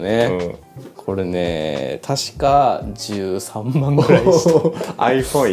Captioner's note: laughs